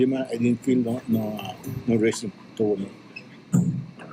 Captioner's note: foreign language